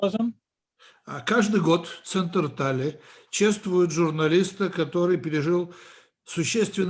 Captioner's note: translator speaking Russian language